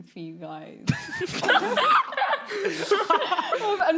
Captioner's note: laughing